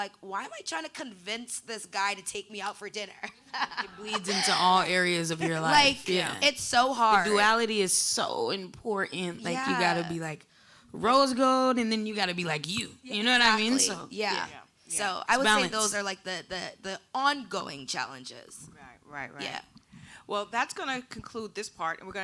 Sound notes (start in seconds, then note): 3.2 laughing